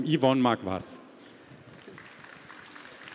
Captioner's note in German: Beifall